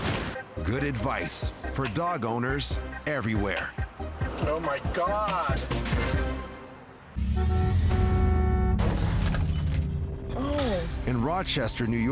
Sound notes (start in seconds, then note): 6.9 glass shatters; 7.2 vehicle honks